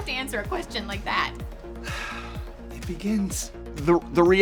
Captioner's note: sighing